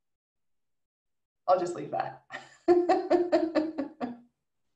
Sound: laughs

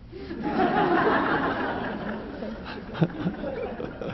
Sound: audience laughing

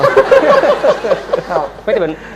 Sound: laughter

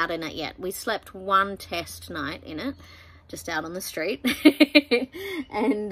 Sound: giggles

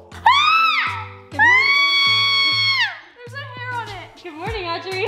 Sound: groans; squeals

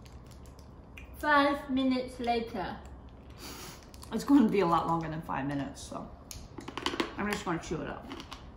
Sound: crunch

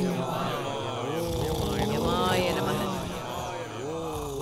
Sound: snoring

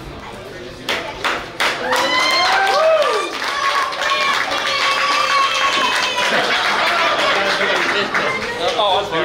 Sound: clapping & Cheering

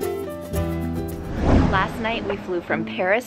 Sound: cheerful music; swoosh sound effect

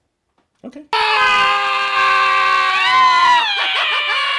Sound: screaming

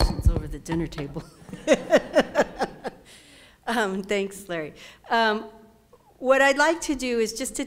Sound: laugh

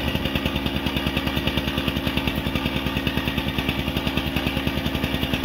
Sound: plate compactor buzzing

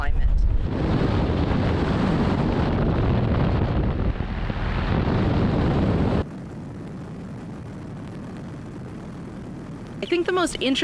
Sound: wind blowing

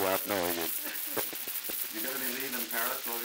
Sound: laughter

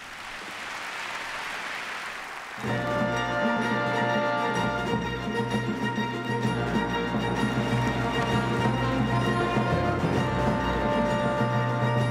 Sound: applause

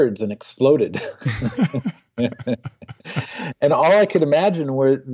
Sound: laughing

